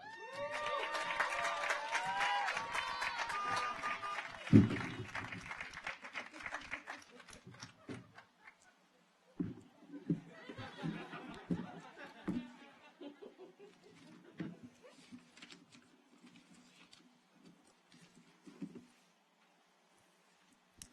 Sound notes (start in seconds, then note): 0.0 audience cheers; 0.0 audience applauds; 10.0 audience laughs